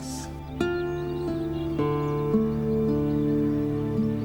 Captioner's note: birds chirp